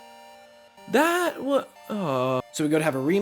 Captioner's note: sounds of dissapointment